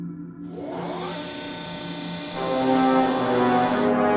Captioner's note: electronic motor